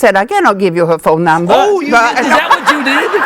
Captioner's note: laughing